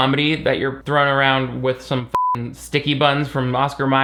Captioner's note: beep